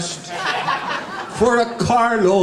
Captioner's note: audience laughing